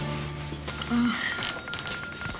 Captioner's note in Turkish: Telefon çalıyor